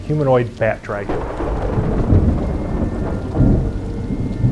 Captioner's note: thunder crashing